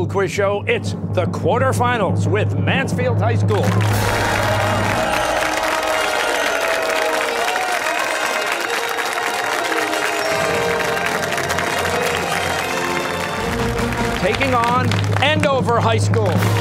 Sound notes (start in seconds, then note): 3.6 fanfare; 8.2 cheers and applause